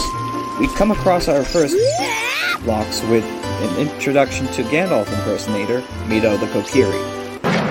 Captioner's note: Link Noise